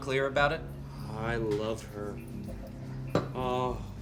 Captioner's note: drunkenly; sighs